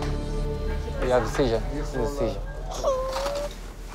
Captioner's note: speaks foreign language; cries